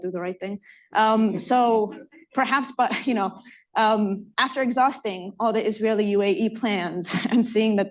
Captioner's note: laughter